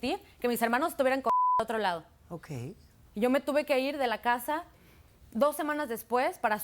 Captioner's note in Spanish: Bip